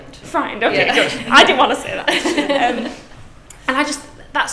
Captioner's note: laughs